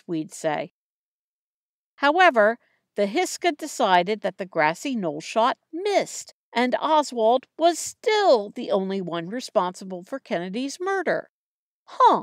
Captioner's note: sarcastic tone